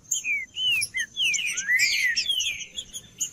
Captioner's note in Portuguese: trinca ferro cantando